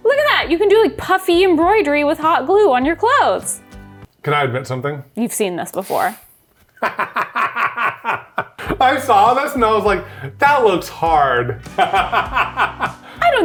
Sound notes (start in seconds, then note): 6.8 laughs; 11.7 laughs